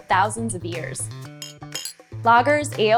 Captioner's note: clinking noise